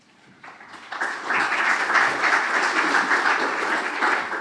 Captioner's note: audience claps